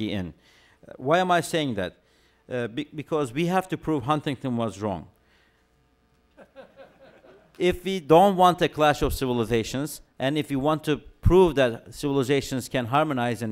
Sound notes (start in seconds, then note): 6.3 laughter